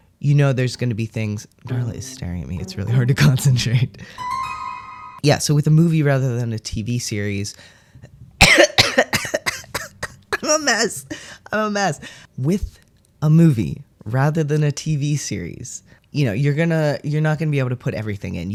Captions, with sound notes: you know, there's going to be things - Darla is staring at me. It's really hard to concentrate. Yeah. So with a movie rather than a TV series. [starts coughing] [laughing] I’m a mess! I’m a mess. With a movie rather than a TV series, you know, you're going to - you're not going to be able to put everything in.